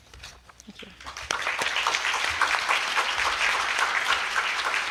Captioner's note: applause